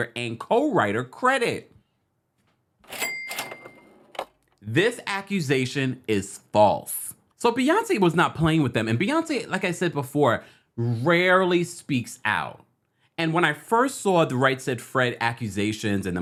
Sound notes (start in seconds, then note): 2.8 cash register ringing